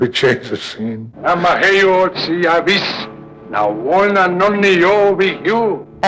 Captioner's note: laughing; speaking foreign language